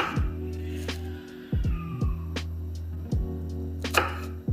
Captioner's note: interruption due to roaring kid